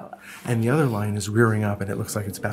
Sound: voiceover

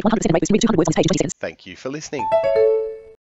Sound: NVDA end sound

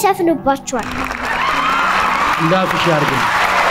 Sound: applause and scream

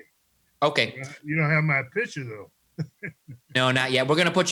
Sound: laughs

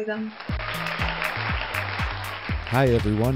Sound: crowd cheering

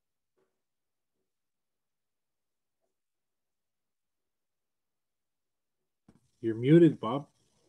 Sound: silence

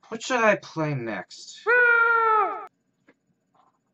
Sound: yell in the distance

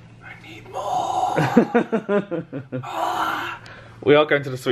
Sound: laughs

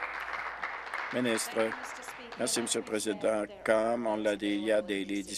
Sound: applause

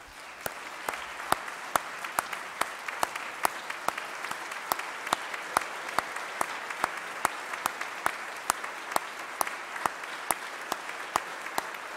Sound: applause

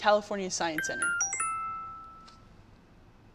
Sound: phone chimes

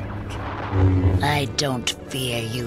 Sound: vrr

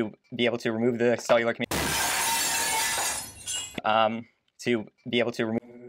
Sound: glass break sound

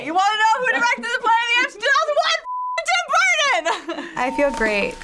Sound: chuckles

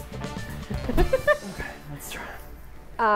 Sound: laughs

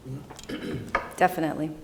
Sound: clears throat

